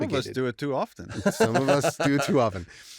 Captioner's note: laughter